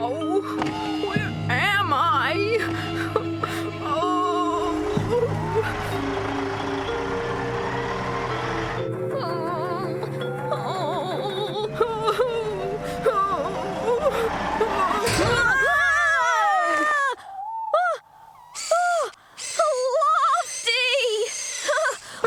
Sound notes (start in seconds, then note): 6.3 engine Running